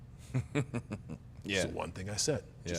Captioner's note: giggles